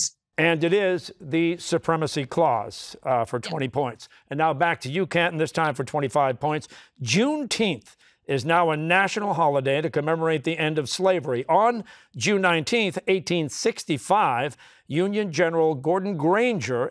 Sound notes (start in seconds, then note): none